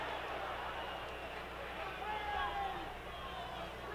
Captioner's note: audience clamoring